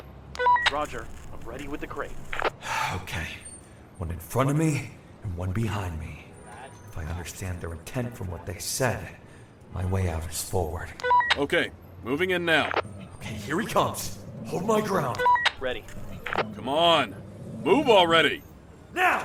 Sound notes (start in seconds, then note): 0.8 walkie talkie; 4.2 deep breath; 15.9 dog growls; 17.8 walkie talkie